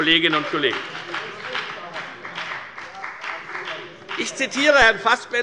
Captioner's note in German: Beifall bei der FDP